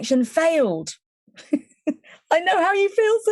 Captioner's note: chuckling